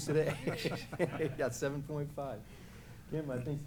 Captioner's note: laughs